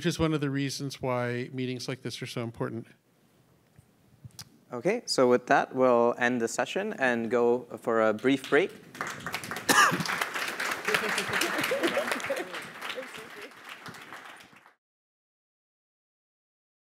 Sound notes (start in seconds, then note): 8.8 applause